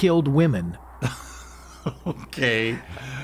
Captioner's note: laughing